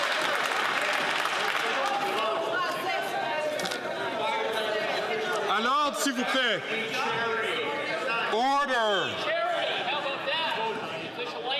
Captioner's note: some Applause